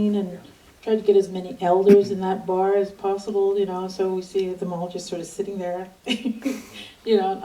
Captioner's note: laughs